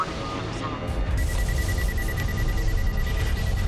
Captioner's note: rapid beeping